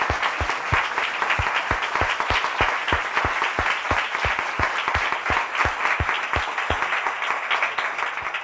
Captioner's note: applause